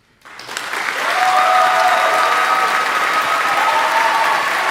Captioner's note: audience applauding; audience cheering